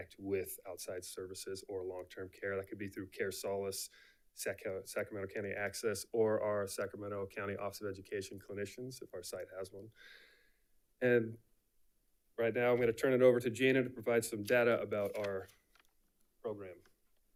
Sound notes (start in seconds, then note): none